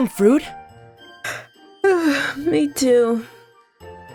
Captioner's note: yawns